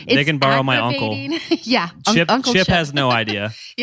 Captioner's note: laughs